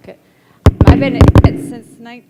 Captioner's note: thump